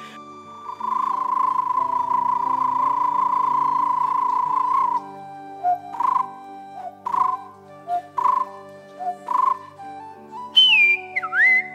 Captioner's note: sounds of various birds